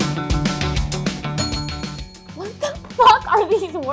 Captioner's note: upbeat music; bell rings